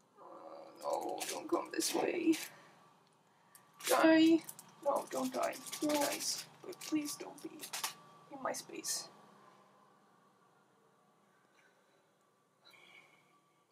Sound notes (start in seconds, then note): none